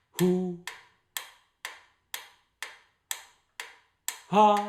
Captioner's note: ticking sounds